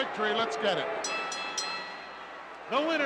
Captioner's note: bell dinging